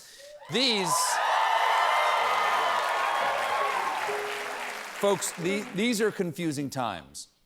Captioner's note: cheers and applause